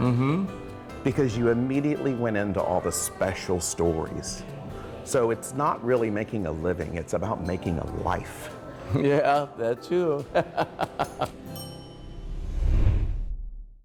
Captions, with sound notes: because you immediately went into all the special stories. So it's not really making a living, it's about making a life. - Yeah, that too. (laughing) (bell ringing)